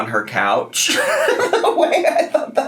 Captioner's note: laughing